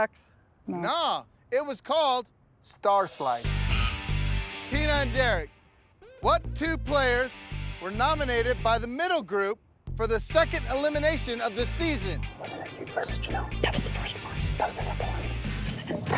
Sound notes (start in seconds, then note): 11.7 quietly